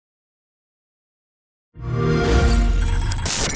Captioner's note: game music; xbox sound